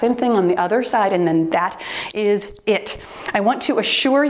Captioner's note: timer beeps